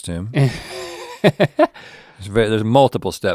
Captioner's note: link laughs